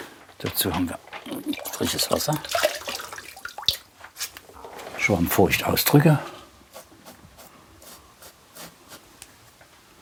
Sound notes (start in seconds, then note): 6.6 soft wiping noises